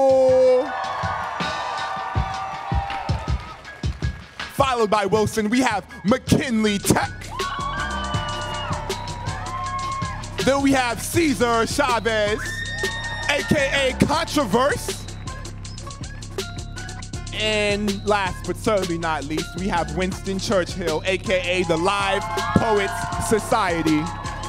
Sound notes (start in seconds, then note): 0.0 audience cheering; 7.1 audience cheering